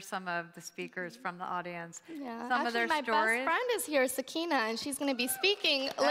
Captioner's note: applause